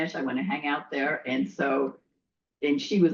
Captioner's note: none